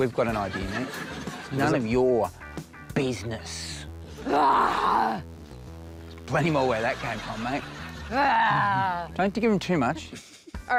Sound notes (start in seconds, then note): 4.2 roars; 8.2 roars feebly